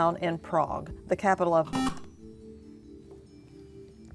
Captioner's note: beeping